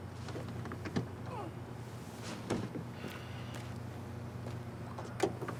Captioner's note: groaning softly